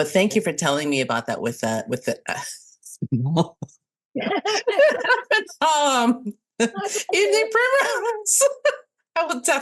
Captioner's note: can't stop laughing